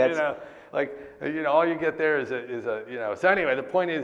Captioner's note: laughs